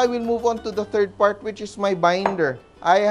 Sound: knock

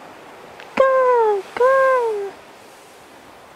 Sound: seagull caws

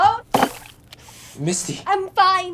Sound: mug thudding

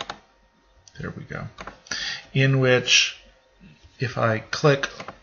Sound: double clicking to switch modes

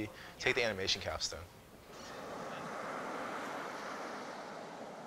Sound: waves

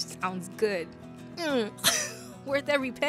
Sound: laughs

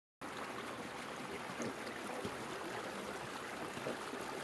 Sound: water flowing

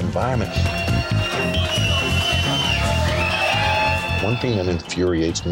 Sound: crowd cheering

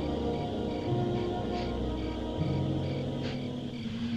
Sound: sniffing

